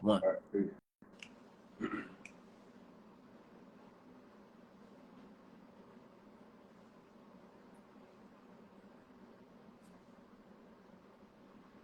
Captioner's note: coughing